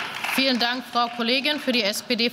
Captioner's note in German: Beifall